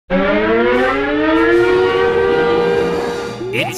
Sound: siren wails

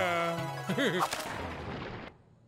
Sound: chuckles

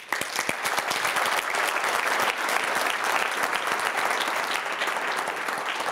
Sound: applause

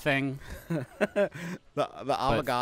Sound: laughing

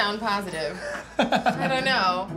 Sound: laughing

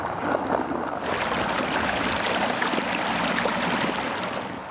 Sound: water splashing

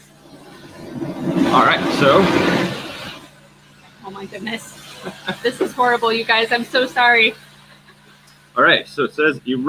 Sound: loud construction noise

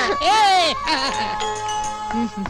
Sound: laughing

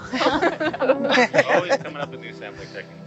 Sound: everyone laughs

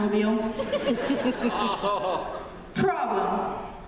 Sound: laughter

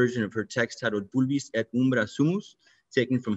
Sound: speaking in foreign language

